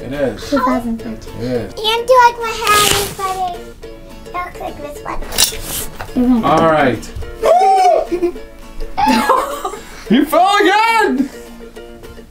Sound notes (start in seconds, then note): 9.0 laughs